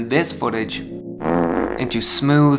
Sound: fart noice

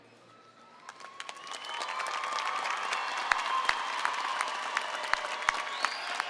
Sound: audience cheering and applauding

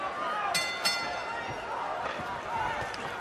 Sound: bell rings

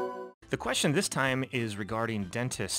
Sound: voiceover

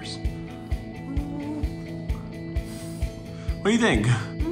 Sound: humming pensively

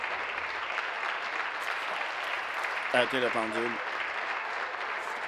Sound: applause

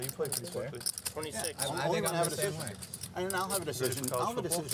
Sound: table chatter

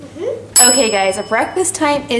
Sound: bell dinging

